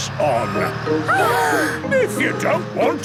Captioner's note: children gasp